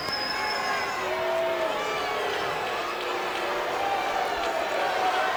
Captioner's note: audience jeers